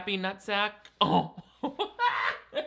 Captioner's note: laughs; chuckles